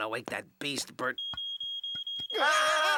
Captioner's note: smoke alarm beeping; screaming